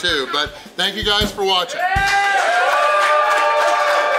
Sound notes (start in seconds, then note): 1.6 crowd cheering; 2.0 crowd applauding